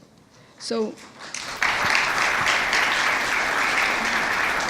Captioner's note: audience applauds